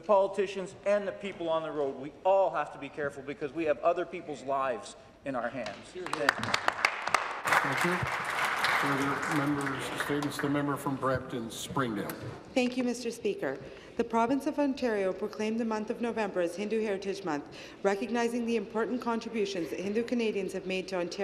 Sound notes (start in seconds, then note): 10.3 cheering and Applause